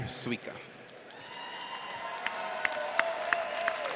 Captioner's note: audience cheers